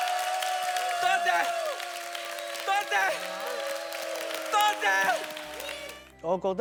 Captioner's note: audience applause and cheers; audience applause and cheers